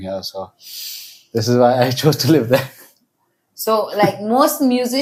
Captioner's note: inhales; laughs